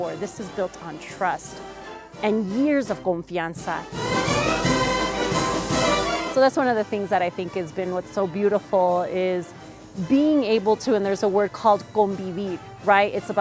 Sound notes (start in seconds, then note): 2.8 speaking Spanish; 4.0 brass band music; 11.9 speaking Spanish